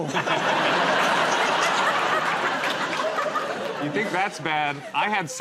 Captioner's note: laughter